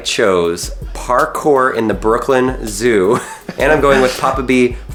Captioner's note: laughing